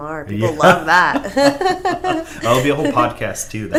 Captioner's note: laughs